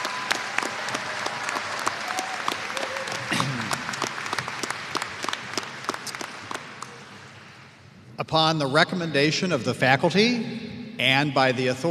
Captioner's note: applause